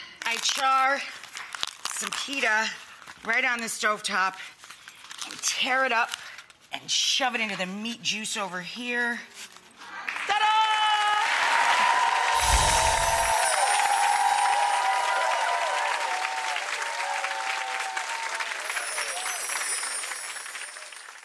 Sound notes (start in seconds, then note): 11.4 audience applauding; 12.4 jingling; 18.6 jingling